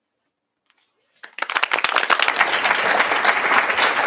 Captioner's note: applause